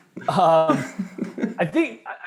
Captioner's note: laughing